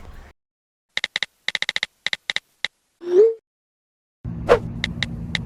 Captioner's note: typing sounds